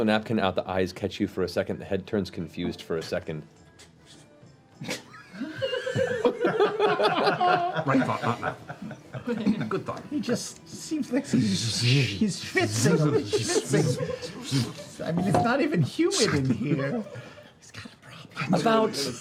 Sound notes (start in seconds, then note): 4.8 laughter; 12.4 shushing; 16.8 whispering